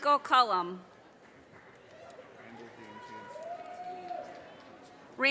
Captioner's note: audience cheers and applause